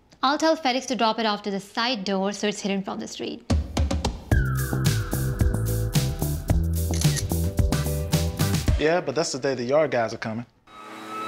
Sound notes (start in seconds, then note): 3.5 upbeat rhythmic music; 4.4 camera clicking